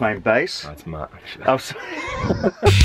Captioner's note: laughter